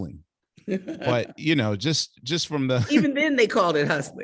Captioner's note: laughing